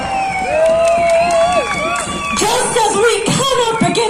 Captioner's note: crowd cheering and whooping